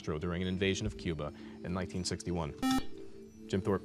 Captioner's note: beep